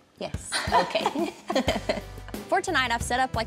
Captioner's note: chuckles